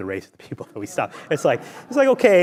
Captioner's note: laughs